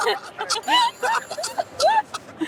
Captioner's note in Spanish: Suena un celular